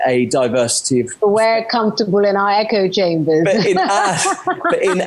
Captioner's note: laughs